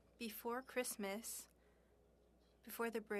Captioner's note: speaking French